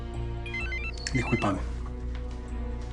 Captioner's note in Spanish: Suena el celular